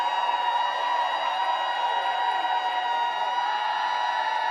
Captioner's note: applause